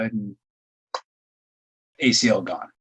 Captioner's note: clicking